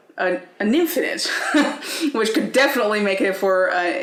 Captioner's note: laughing